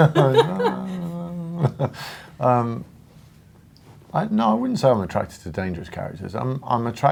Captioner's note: laughs